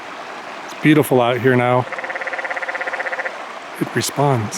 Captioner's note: frog croaking